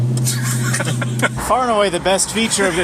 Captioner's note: they laugh